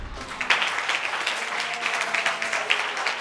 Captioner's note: crowd applauding